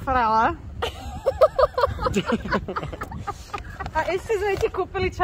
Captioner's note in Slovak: smiech